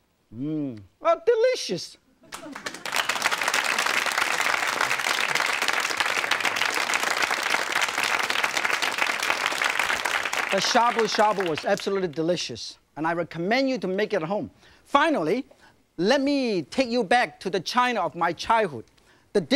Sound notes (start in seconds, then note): 2.2 audience clapping